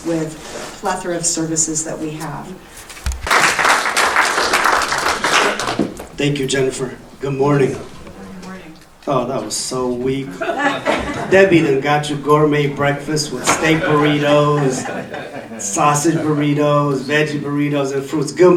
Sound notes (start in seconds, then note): 3.2 audience applauding